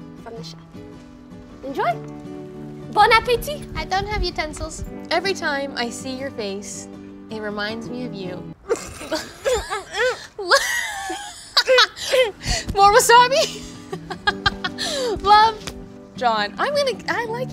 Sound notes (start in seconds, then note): 8.6 laughing